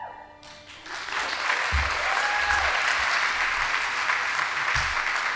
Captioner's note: audience applauding